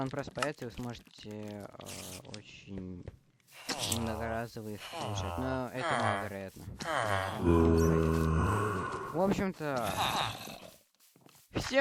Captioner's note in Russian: стон